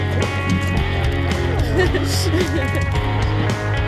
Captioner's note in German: lacht